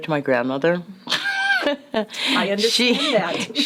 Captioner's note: laugh